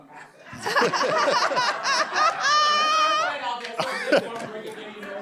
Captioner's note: laughter